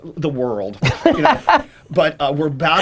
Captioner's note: laughing